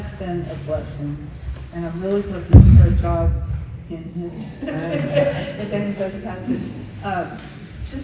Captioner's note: laughs